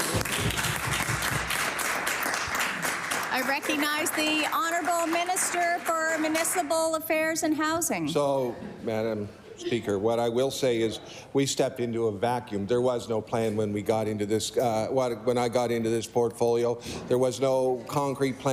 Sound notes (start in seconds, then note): 5.6 applause